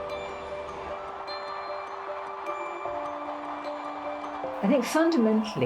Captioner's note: crowd cheering